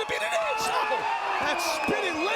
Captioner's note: crowd groaning